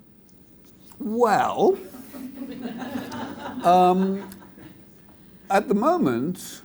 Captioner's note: audience laughs